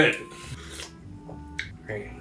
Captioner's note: slurp